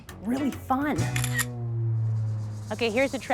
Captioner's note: camera shutter clicks